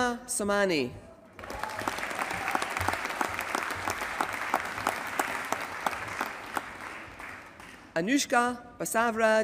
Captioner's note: applause